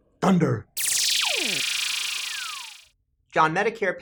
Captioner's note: electronic noise